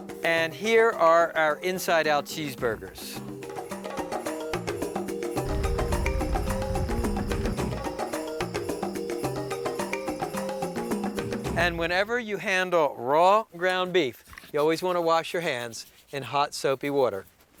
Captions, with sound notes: and here are our inside-out cheeseburgers. (fire roaring) (energetic drum music) And whenever you handle raw ground beef, you always wanna wash your hands in hot, soapy water.